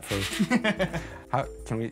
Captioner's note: laughter